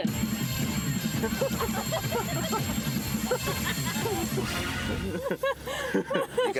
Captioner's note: laughing